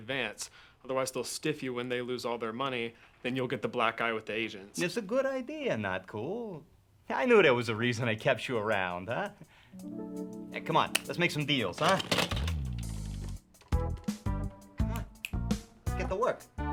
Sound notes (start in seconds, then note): 11.5 phone clanks; 12.3 upbeat groovy music